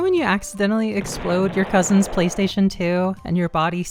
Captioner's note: explosion